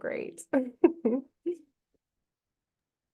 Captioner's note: chuckles